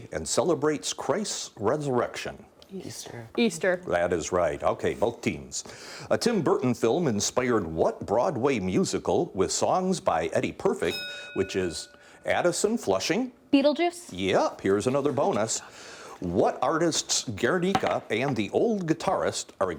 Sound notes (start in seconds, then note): 10.8 bell dinging